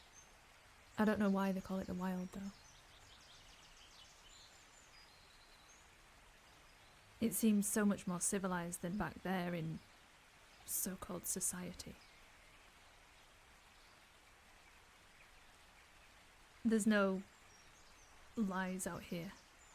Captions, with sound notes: - I don't know why they call it "the wild," though. It seems so much more civilised than back there, in so-called "society." (birds continue chirping) There's no lies out here,